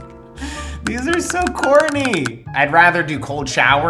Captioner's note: clicking